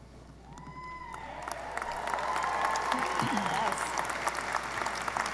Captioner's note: audience applauding